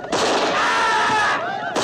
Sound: screaming

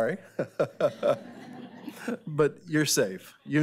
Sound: laughing

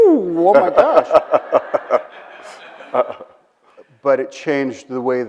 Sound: Bill laughs

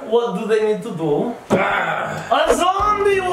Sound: mummy growling

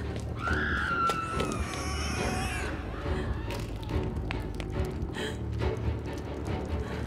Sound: woman screaming; monster screeching

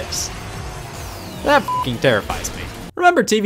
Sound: beep

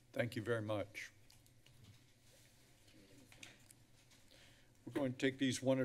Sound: paper rustling

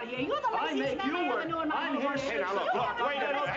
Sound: both Arguing

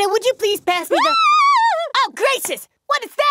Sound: screaming

